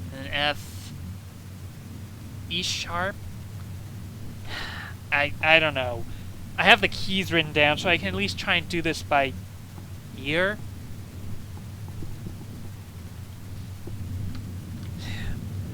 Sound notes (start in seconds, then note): 4.4 sigh